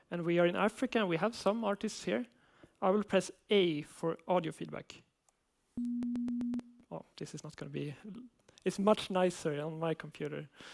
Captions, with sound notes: and we are in Africa, and we have some artists here. I will press A for audio feedback. [Vibrating beep] This is not going to be… It's much nicer on my computer.